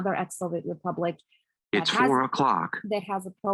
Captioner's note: bold Voice